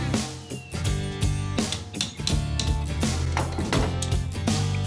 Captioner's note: hammering